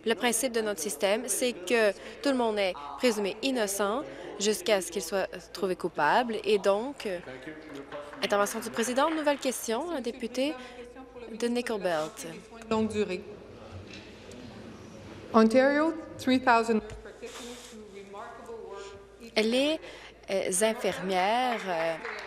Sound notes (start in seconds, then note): 13.3 speaking in french